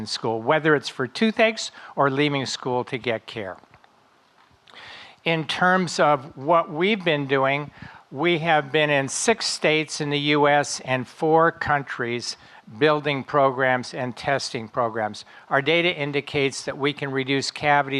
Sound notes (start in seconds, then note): none